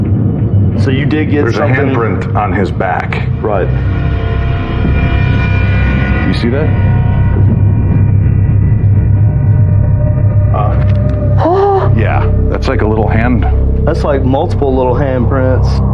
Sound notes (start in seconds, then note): 11.1 gaspsps